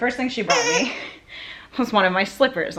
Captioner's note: dog toy squeaks